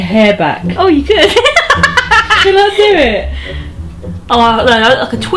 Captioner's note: laughs